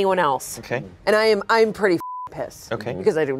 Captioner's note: beep